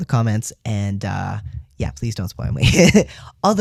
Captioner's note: laugh